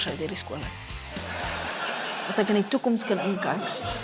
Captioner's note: laughter